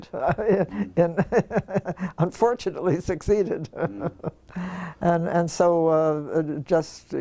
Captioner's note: laugh